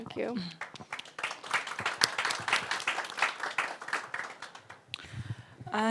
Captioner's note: audience applauds